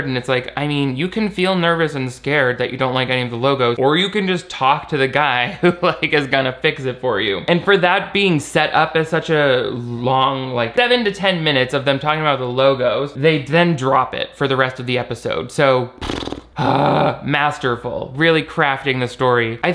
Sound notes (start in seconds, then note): 15.9 lips bubbling; 16.0 groans